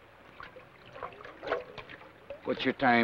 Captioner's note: water swashes